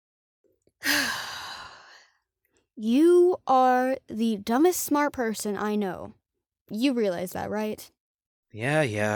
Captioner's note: deep sigh